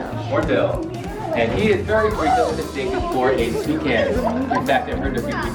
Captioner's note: presenter faintly speaking